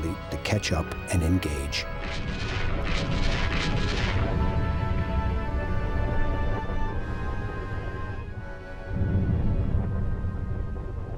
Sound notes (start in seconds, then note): 2.0 explosions booming